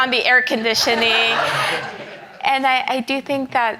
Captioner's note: audience laughs